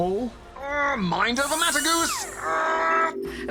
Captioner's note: strains